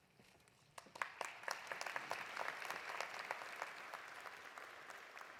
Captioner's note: audience applauding